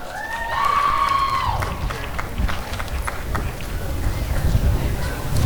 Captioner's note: applause and cheering